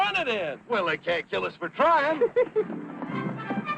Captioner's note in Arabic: ضحك